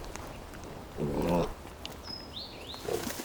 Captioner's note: boar grunts